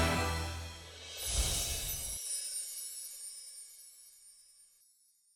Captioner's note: windchimes ring